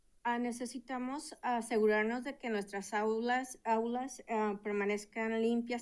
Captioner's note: speaking in Spanish